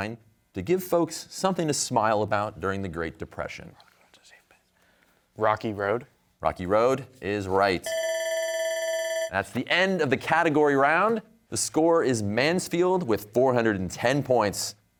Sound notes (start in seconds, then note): 4.4 whispering; 7.8 bell ringing